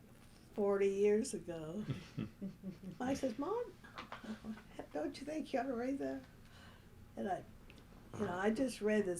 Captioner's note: laughter